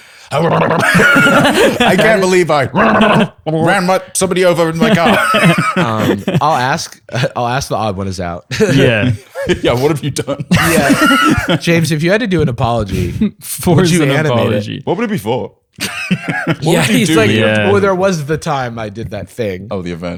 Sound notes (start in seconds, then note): 0.0 laughter; 0.0 more nonsense sounds; 4.7 laughter; 8.5 laughter; 15.8 laughs